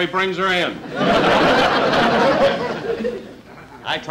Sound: audience Laughing

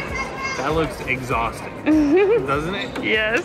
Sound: giggles

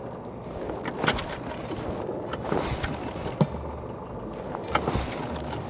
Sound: boat engine sputtering

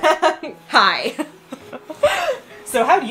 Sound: giggles

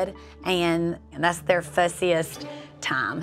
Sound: none

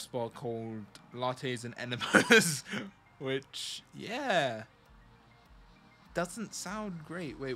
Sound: laughs

